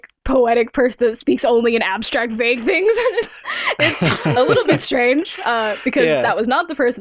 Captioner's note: chuckles